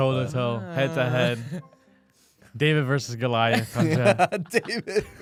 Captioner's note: laughs